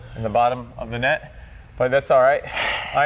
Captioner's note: sighing